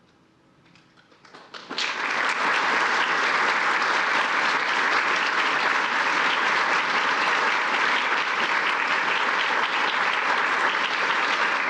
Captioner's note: applause